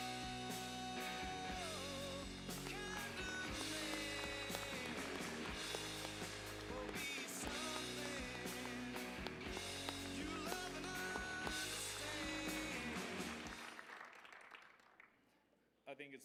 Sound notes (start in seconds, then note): 2.4 applause